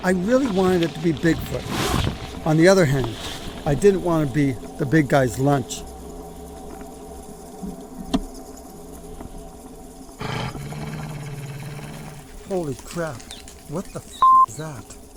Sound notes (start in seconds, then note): 7.1 insects singing; 10.2 creature growls